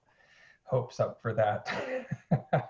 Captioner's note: laughing